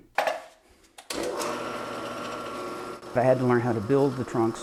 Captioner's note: whirring